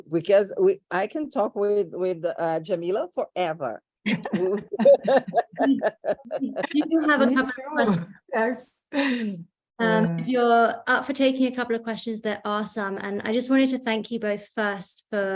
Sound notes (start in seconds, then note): 4.1 laughing